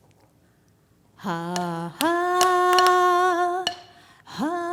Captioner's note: humming